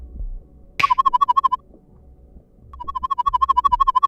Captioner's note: warbling sound